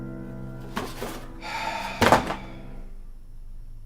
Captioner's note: exhales sharply